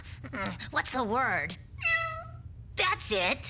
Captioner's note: cat meowing